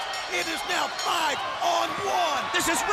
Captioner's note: bell ringing